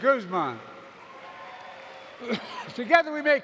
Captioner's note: applause